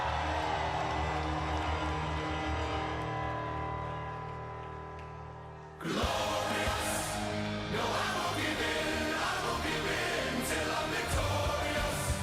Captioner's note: crowd cheering